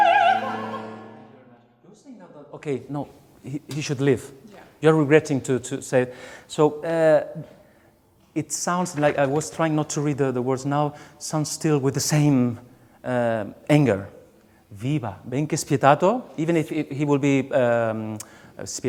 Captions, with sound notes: Okay no, he should live, you're regretting to say. So it sounds like, I was trying not to read the words, now, sounds still with the same anger. [SPEAKING SONG LYRICS IN A FOREIGN LANGUAGE] Even if he will be,